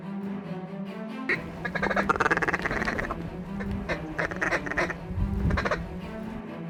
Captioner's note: duck calls